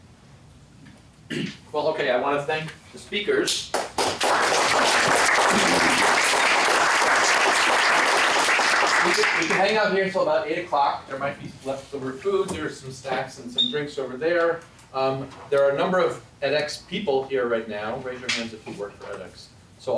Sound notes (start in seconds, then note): 3.7 applause